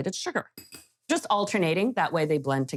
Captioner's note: spoon clinking